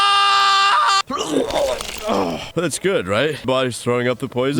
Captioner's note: Archer screaming; vomit splashing